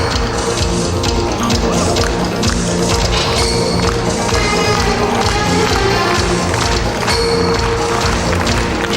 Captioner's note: applause